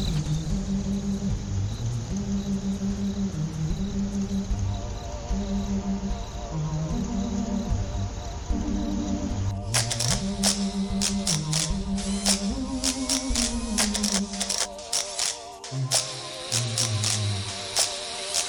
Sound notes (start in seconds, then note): 0.1 crickets, ghoulish music; 6.4 city at night, crickets; 6.4 ghoulish music; 9.7 indoors, sounds of machinery, electric sparks